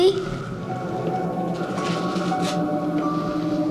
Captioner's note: heavy breathing